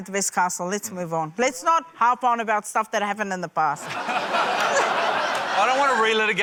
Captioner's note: laughter